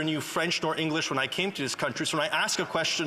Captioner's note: speaking French